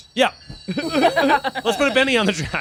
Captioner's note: group laughing